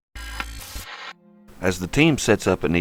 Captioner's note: static fizzing